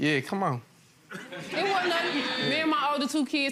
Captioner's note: audience laughing